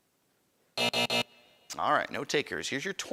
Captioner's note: buzzing